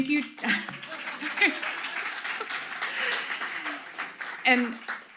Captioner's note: audience applauding